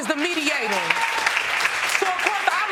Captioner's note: audience applauding